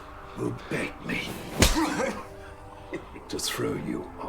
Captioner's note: smacking